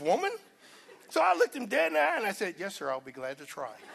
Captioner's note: laughter